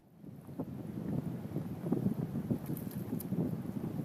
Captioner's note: wind gusting